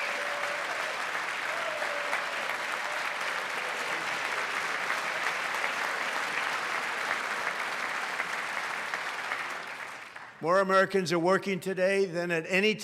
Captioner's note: applause